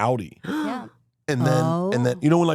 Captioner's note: gasps